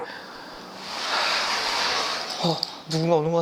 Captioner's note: rattle